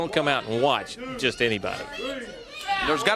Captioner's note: crowd chatter